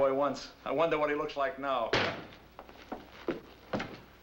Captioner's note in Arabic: ضرب الباب